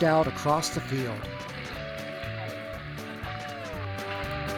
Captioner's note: tractor sounds and country music